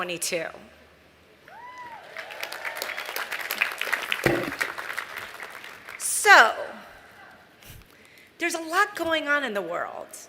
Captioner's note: applause